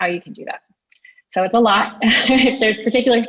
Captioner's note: chuckles